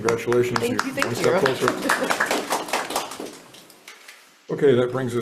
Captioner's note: chuckles; hands clapping